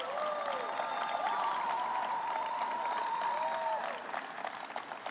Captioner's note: applause